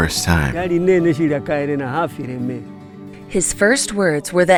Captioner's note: speaking in foreign language